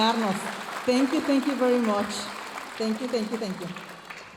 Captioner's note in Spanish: hablando en inglés